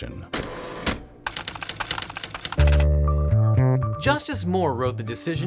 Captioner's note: typewriter clicks